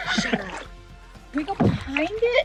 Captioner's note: laughing